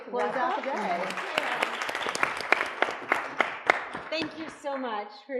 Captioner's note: attendees applauding